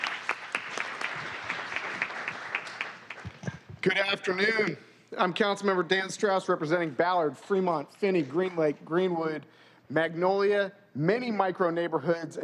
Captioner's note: applause